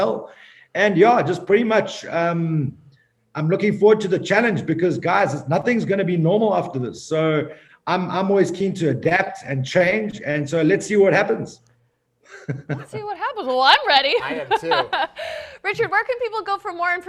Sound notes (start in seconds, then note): 12.2 chuckling; 14.1 laughing